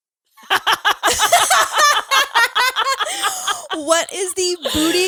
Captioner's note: all laughing